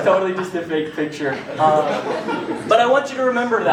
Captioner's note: laughter